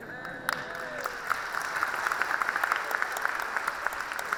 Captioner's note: audience applauds